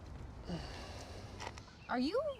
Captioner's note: Mark grunting